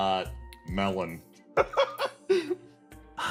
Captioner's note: laugh